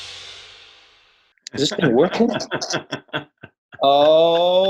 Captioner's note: laughs